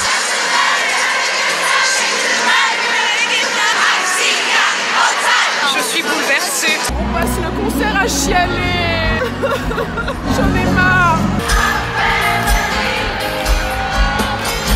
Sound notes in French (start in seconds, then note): 0.2 bruits de concert; 9.3 pleurs; 11.7 Bruits de concert